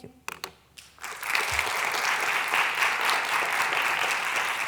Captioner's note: applause